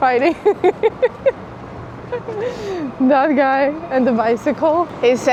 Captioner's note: laughter